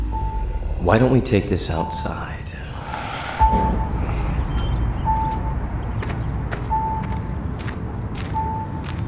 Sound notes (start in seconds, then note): 2.4 birds chirping; 3.5 light dramatic music